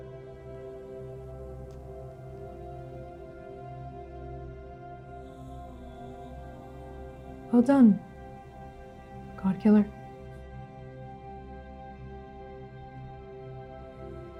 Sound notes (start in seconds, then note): none